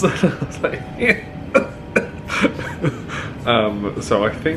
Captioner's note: groaning